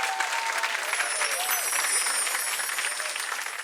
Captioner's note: chimes